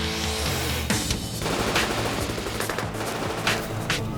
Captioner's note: gunshots